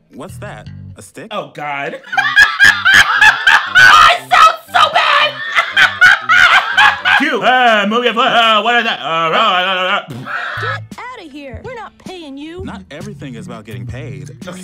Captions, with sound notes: What's that, a stick? - Oh God. (laughs) I sound so bad! (laughs) "Cute. Move your foot. Oh, what is that?" - Get outta here! We're not paying you. - Not everything is about getting paid.